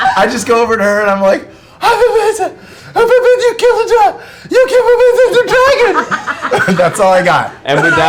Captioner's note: laughter; incoherent, impressed stammering